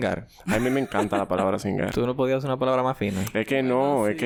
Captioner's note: laughs